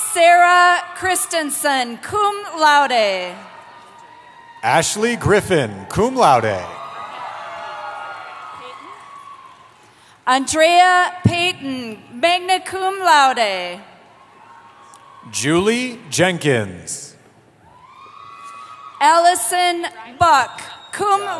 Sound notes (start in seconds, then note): 3.3 cheering; 14.0 cheering; 17.6 cheering